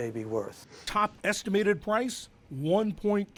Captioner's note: voice-over